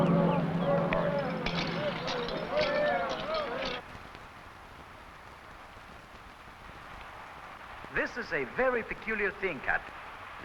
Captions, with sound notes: (buckles rattling) - This is a very peculiar thing, Captain.